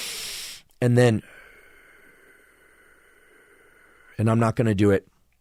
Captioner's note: deep exhale